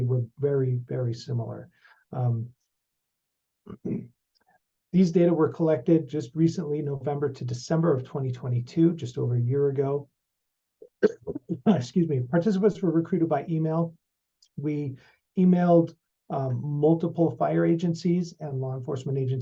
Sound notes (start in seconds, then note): 11.0 cough